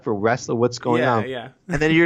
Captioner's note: laughs